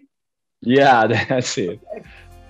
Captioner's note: chuckles